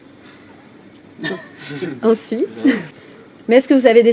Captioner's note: laughs